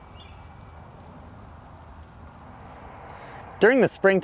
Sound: birds chirping

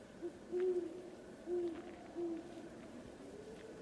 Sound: owl hoots

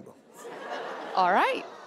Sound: audience laughing

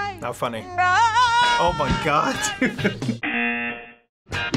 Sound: buzzer

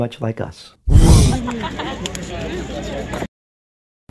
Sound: growl and laughter

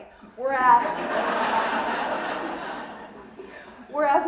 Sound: audience laughing

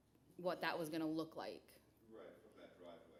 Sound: background chatter

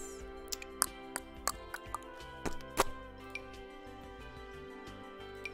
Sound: clicking tongue

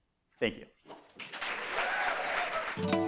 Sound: applause

